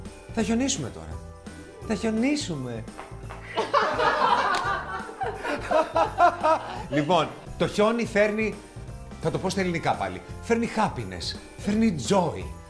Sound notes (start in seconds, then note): 2.8 laughs